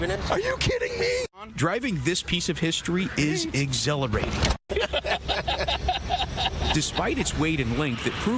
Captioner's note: laughing